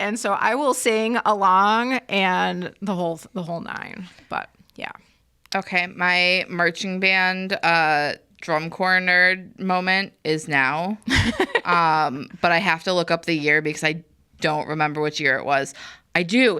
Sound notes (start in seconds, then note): 11.0 laughs